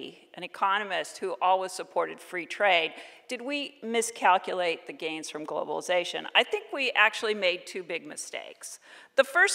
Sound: none

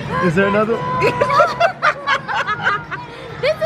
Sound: laughs together

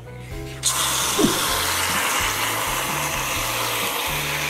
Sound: whip cream squirting

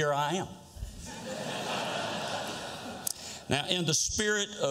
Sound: laughter

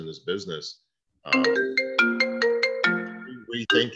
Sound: ringing sound

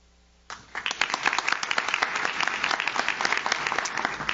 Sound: audience claps

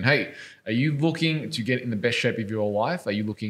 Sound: none

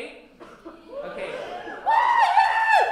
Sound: cheering

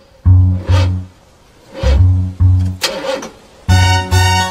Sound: engine revving

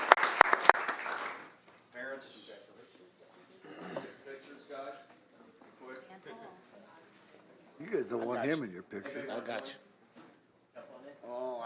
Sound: applause

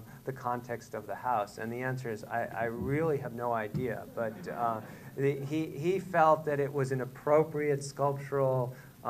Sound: laughter

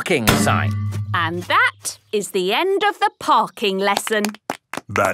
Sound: clapping

